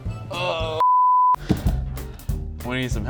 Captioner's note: loud beep